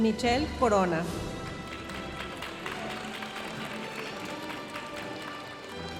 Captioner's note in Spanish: aplausos de la audiencia